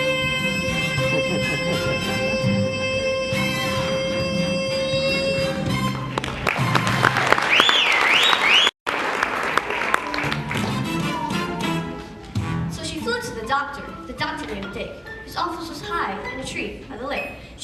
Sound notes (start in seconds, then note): 5.8 applause and whistling; 6.4 song ends